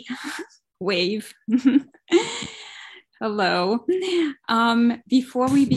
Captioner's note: laughs